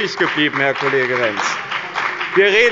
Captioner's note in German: Beifall bei dem BÜNDNIS 90/ DIE GRÜNEN sowie bei Abgeordneten der CDU